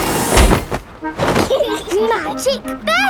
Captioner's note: laughing